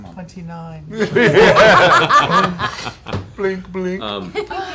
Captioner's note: laughter